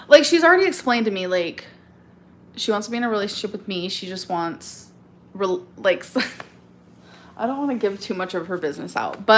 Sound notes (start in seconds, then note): 5.7 laughs